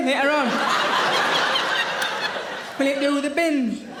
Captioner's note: audience laughing